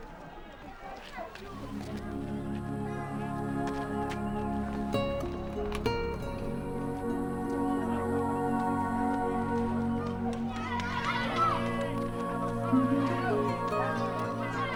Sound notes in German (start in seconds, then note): 3.1 nachdenkliche Musik; 11.1 Kinder lachen